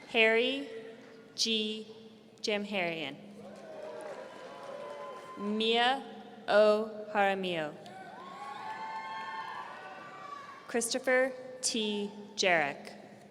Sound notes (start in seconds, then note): 3.4 audience cheering; 8.0 audience cheering